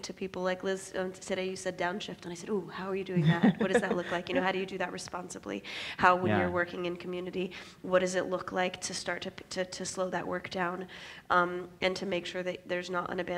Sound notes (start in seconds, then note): 3.2 laughs